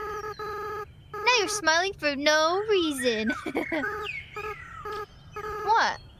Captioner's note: laughs